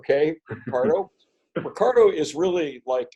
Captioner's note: giggles